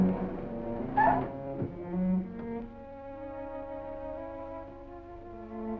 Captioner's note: electronic squealing